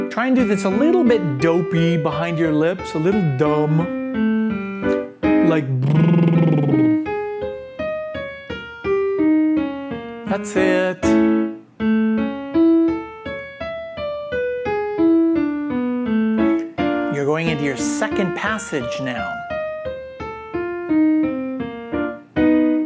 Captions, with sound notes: Try and do this a little bit dopey behind your lips, a little dumb. Like (trills lazily). (soft music continues) That's it. (soft music continues) You're going into your second passage now. (soft music continues)